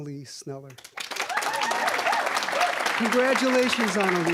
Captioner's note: applause, cheering